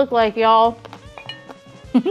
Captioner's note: clink